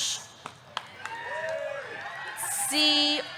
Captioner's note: audience clapping; audience cheering